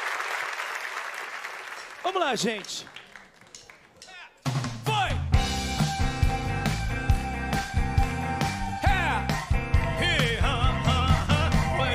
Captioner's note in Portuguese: aplausos